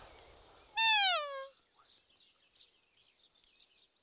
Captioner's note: animal call